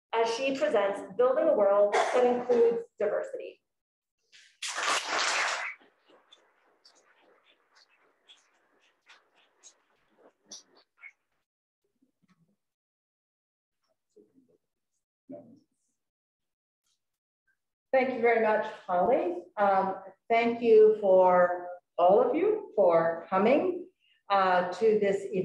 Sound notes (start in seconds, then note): 4.4 audience claps